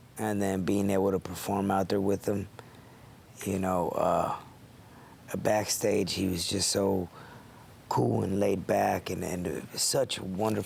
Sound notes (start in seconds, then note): none